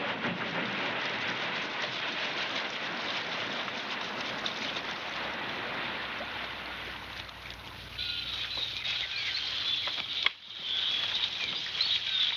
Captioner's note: birds chirping